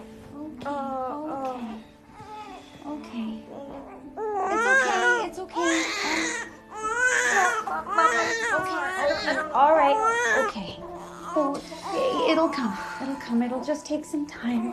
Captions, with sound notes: - Oh, oh. - Okay, okay. Okay. - It's okay. It's okay. Oh... - (Crying) - (Crying) - Oh. Mom. Mom. Okay, okay. All right. Okay. It's okay. It'll come. It'll come. It'll just take some time.